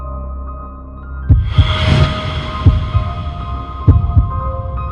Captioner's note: heartbeat thumping